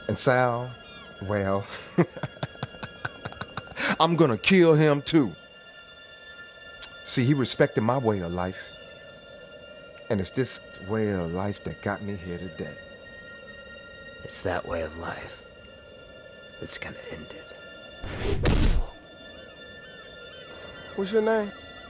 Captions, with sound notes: And Sal, well, (chuckles) I'm gonna kill him too. See, he respected my way of life, and it's this way of life that got me here today. - It's that way of life that's gonna end it. (fist whacking) What's your name?